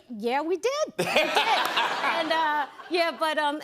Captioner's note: laughter